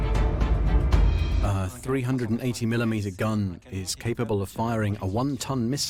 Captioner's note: voiceover